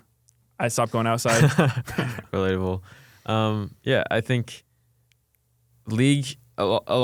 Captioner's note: laughs